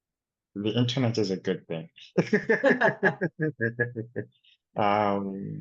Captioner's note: laughs